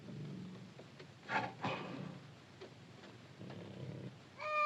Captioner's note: tiger snarls softly; child cries out